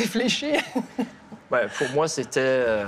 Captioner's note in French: rire